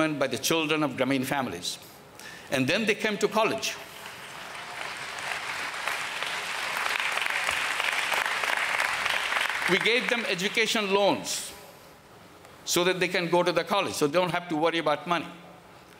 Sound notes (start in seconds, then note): 3.9 applause